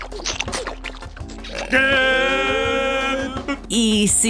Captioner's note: belching